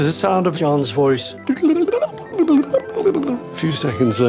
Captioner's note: imitates computer noise